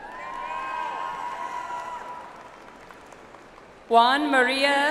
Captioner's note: audience applauds